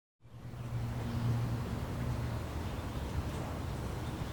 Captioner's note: city sounds hum